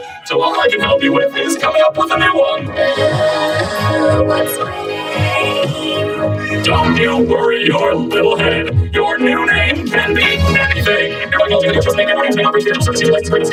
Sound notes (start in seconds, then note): 2.2 groaning